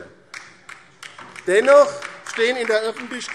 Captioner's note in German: Beifall DIE LINKE